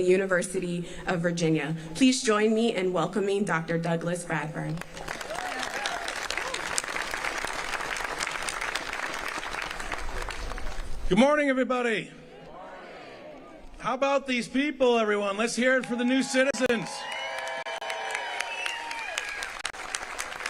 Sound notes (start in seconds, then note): 9.8 applause